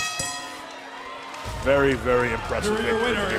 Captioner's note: bell ringing; crowd cheering